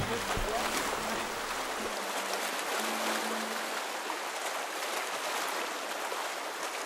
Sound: water lapping

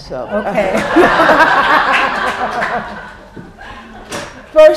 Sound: laughter

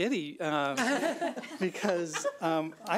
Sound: laughs

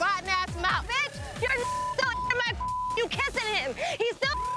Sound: beep

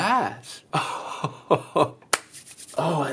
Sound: chuckles

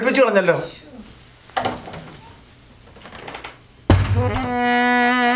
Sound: closing door

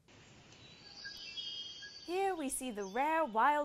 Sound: various jungle animal noises

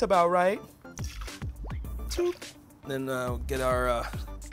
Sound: liquid splashing

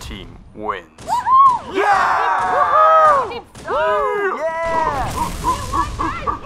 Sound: cheering

